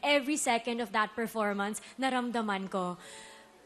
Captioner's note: none